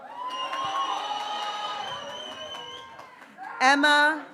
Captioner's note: graduates cheering